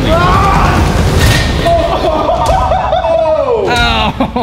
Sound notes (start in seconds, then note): 0.0 screaming; 1.8 laughing